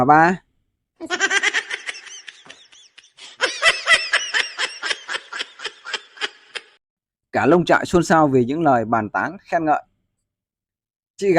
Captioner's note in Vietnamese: Tiếng cười